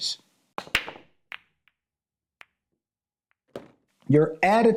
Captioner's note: billiard clacking